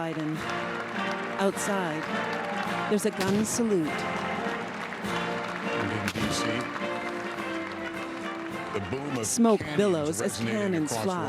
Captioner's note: applause